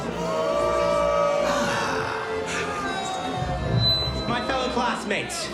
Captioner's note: sighs